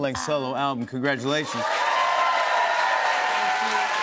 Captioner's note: cheers and applause